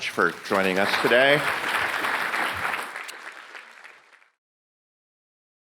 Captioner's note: audience clapping